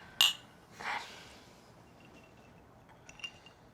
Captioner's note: clinking glasses